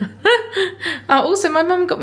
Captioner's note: laughs